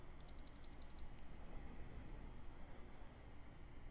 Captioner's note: rapid mouse clicking